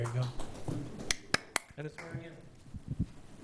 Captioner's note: claps